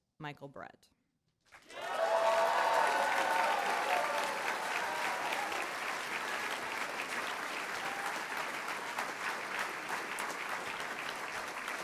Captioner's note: applause